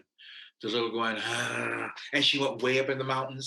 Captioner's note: deep sigh